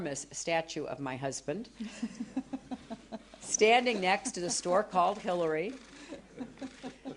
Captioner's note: laughter